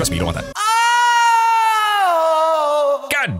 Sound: another painful orgasm

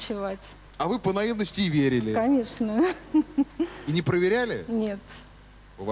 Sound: laugh

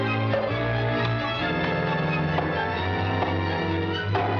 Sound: whinnying

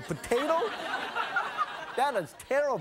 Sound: audience laughing

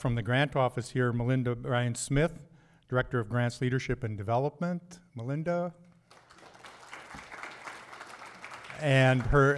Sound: applause

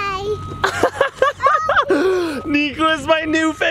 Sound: laughter

